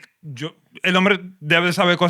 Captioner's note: speaking Spanish